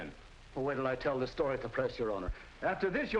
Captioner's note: scoffs